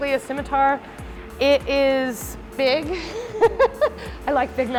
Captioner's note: laughs